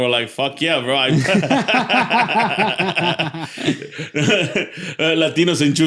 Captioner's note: laughter